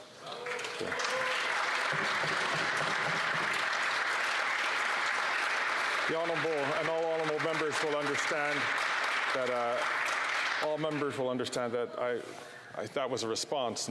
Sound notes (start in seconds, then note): 8.8 some Applause